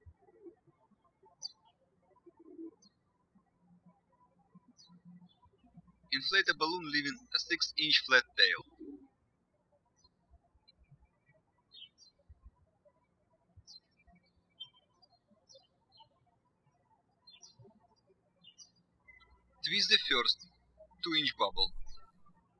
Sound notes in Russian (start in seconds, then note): 0.1 птички щебечут; 9.4 птички щебечут